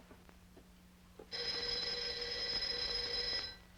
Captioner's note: ringing